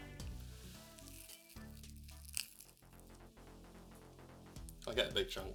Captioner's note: asmr meat sounds